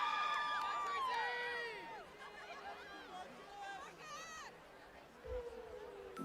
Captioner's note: cheers